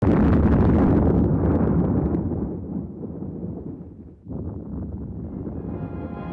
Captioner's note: explosions; dramatic music